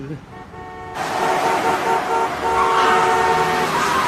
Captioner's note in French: Klaxons, crissements